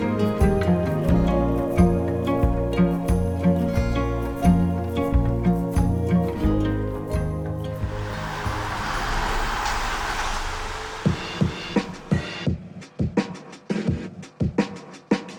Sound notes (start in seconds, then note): 7.7 car engine; 9.3 upbeat music